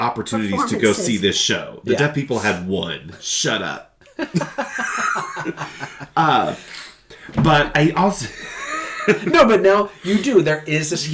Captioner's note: laughter